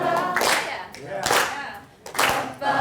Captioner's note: voiceover